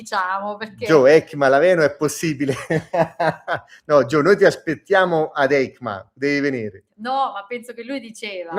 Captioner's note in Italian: risate